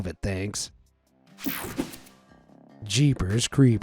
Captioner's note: screen whooshing